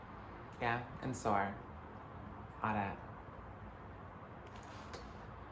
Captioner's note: kisses